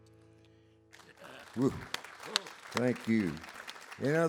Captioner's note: audience applauds